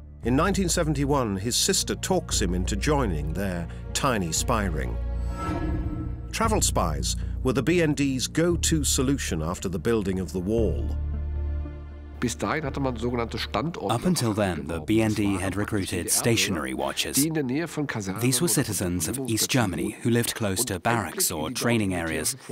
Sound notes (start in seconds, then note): 12.2 speaking German